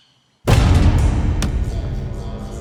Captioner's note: door bangs open; tense music